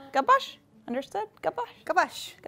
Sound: speaking Amharic

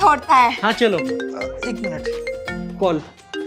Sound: phone ringing

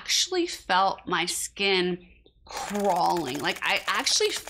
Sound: bugs walking

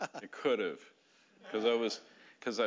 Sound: audience laughing

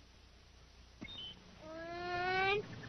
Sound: birds chirping

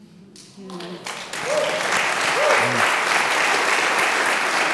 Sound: audience applauding

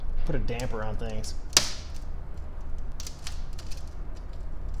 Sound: glass cracks, crunches

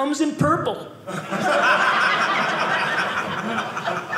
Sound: audience laughing

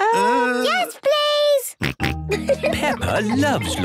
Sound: snorting and giggling

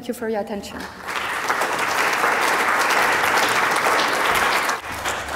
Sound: audience applauds

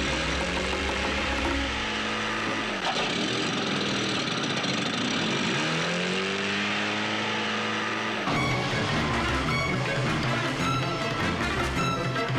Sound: engine starts

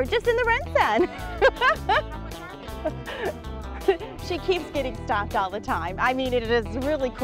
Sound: laughter

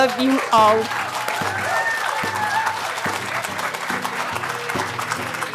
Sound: applaudissements

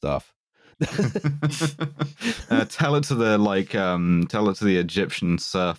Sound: laughter

